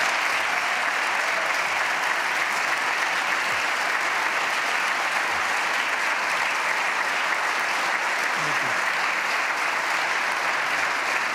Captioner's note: applause